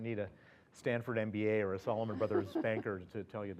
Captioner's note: laugh